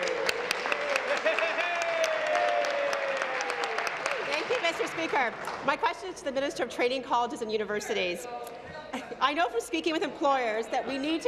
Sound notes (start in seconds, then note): 2.2 applause